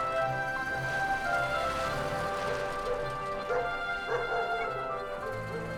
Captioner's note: dogs barking